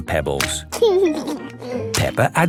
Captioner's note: laughing